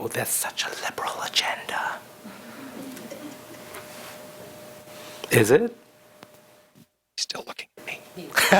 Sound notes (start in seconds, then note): 2.2 audience reacts